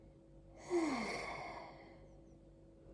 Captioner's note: light breathing and sigh